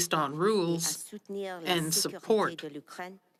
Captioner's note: speaking French